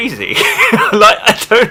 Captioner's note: laughs